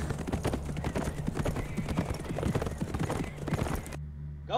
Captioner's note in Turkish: At nalı sesleri; At kişneme sesi